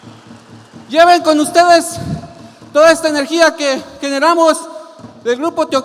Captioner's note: continues speaking in Spanish